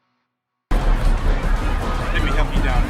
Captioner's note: people clamoring